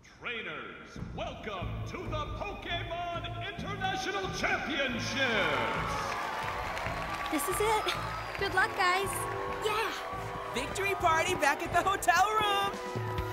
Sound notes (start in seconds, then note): 6.1 crowd cheering